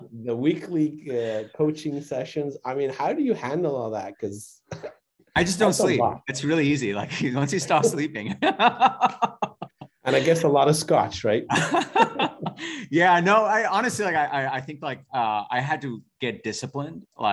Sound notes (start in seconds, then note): 9.3 laughing